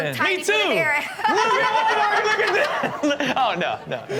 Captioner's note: hosts erupt in laughter